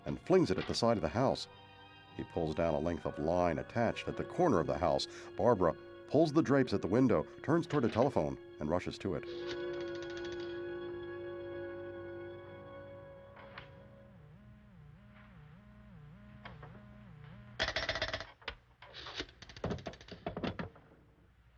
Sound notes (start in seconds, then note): 8.9 dial clicking; 13.0 pulsating tone; 18.5 dial clicking